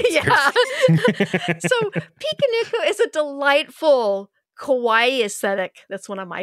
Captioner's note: laughs